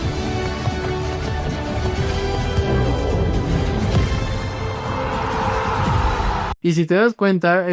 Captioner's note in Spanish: grito